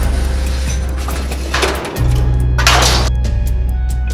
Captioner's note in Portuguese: barulho de algo caindo em metal